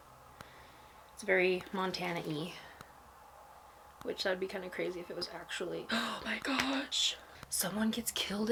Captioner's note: gasp